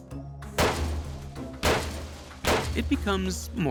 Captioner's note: muffled explosions